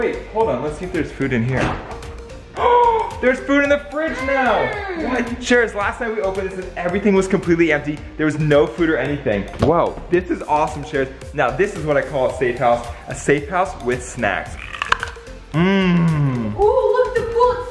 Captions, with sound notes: Wait, hold on, let's see if there's food in here. (gasps) There's food in the fridge now! Sharers, last time we opened this, everything was completely empty. There was no food or anything. This is awesome, Sharers. Now, this is what I call a safe house. A safe house with snacks. (crunches carrot) Mm. - Ooh, look at the pool.